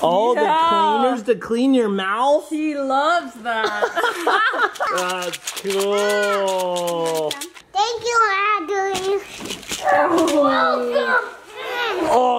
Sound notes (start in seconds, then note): 3.7 laugh; 4.2 candy rattles; 9.9 grunts